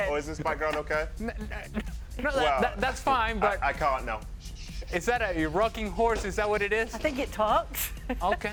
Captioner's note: laughter